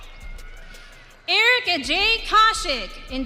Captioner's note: audience cheering